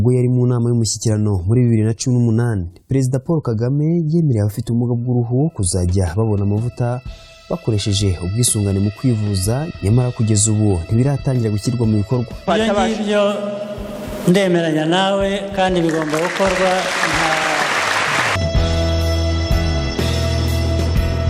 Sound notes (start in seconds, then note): 15.7 audience applauding; 18.6 soft music